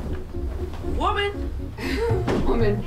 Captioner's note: chuckles